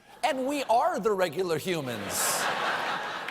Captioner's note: laughter